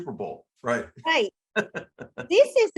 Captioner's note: laugh